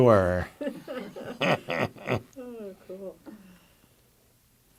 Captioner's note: laughter